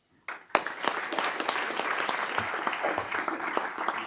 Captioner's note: audience clapping